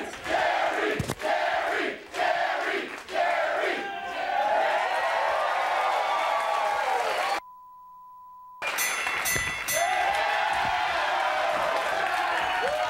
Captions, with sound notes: Jerry, Jerry, Jerry, Jerry, Jerry! (audience cheering) (beep) (Bell dinging) (audience cheering)